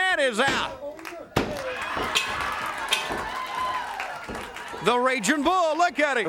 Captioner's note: bell rings; crowd cheers